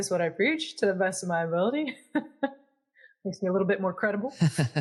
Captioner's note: laugh